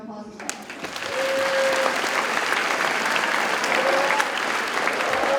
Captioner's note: audience cheers and applauds